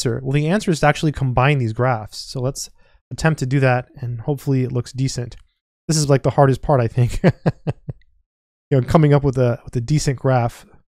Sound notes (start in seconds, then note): 7.2 laughs